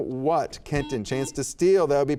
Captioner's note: buzzer beeps